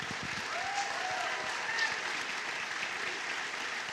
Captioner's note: applause and cheers